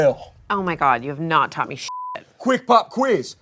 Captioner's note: beep